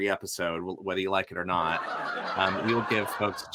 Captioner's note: audience laughs